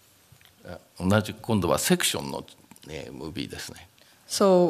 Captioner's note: speaking japanese